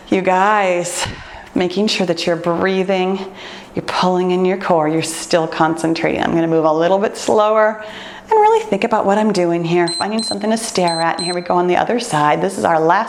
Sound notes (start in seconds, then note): 10.7 timer beeps